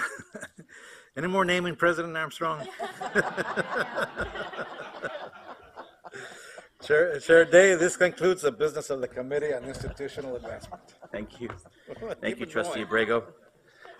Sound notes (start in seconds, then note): 2.6 laughter